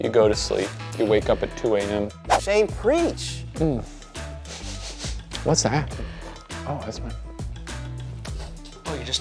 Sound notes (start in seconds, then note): 4.5 sniffs